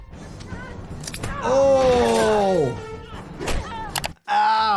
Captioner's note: grapple ensues